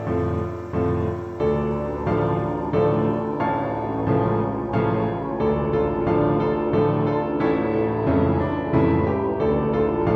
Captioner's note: mournful howling